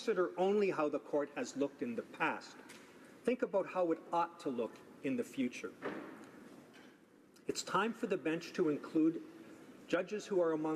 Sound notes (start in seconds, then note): none